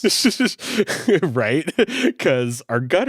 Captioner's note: laughs